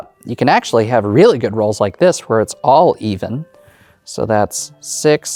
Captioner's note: none